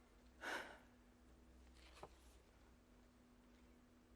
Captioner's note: Hatshepsut sighs